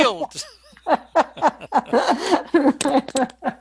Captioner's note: laughter